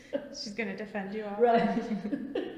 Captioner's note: laughs